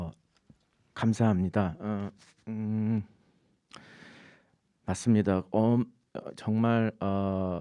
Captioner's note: speaking in Korean